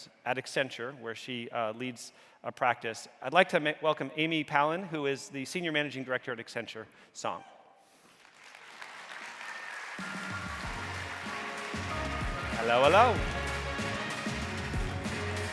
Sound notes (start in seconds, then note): 8.1 audience applauding